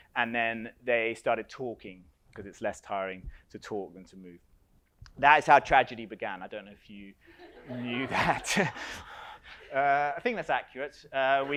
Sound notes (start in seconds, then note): 7.4 audience laughs